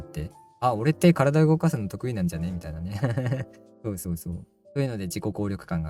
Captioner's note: laughs